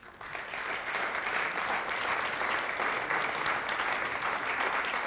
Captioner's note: audience applauding